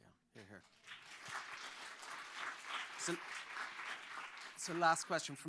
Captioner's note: applause